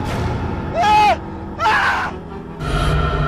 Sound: shouts

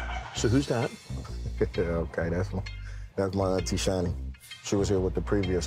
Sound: laughing

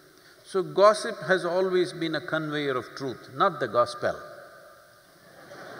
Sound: laughter

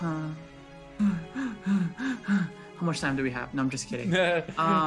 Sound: hyperventilates

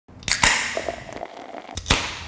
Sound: tab popping; pouring

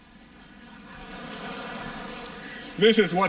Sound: laughter

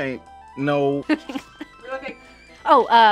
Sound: laughing

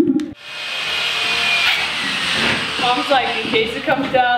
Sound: saw noises

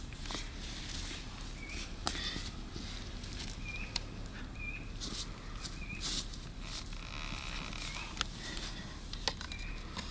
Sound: birds chirping

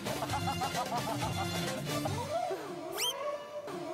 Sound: laughing

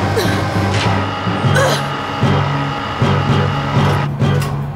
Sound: jammed loud motor strains

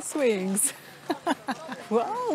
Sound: laughs

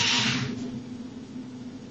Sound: drilling

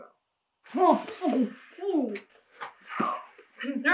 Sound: male captive moans

